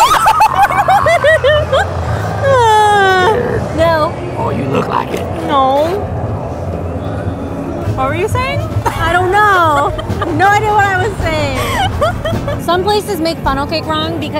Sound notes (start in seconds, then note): 2.0 growling; 10.3 laughing